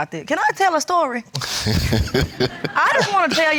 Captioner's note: laughs